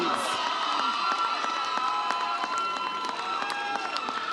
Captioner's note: audience cheers